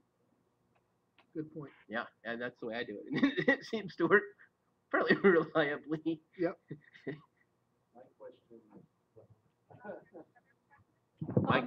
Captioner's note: laughter